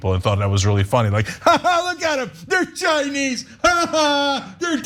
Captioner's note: laugh